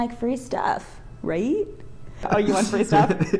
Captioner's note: laughing